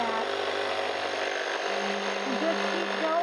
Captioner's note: machine vibrating